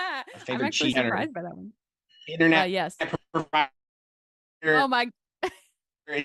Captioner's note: laughter